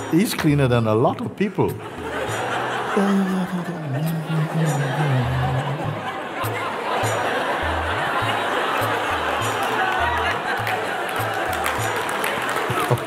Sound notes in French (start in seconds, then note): 1.8 rires; 10.0 rires et applaudissements